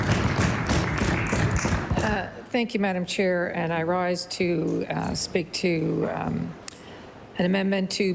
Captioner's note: applause